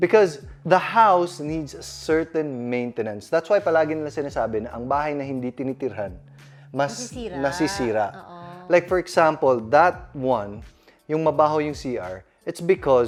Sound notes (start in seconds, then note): none